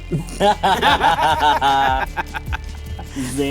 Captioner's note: laughter